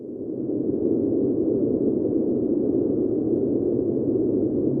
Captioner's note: wind whirls